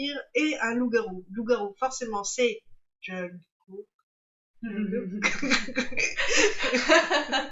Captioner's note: laughs